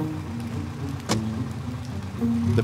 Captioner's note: door closes